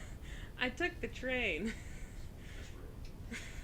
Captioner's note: laughs